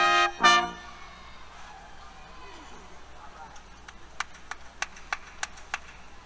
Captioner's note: cheers, Applause